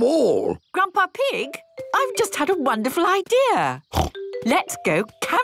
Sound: snort

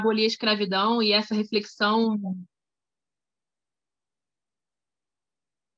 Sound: Perone speaking in Portuguese

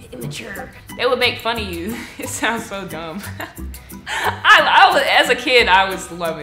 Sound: chuckles

